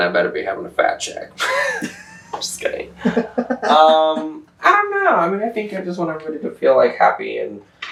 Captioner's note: laughter